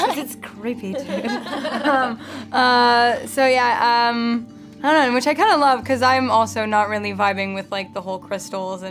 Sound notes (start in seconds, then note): 0.9 all laughing